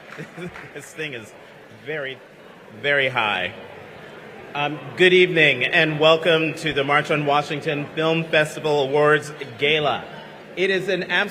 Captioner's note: applause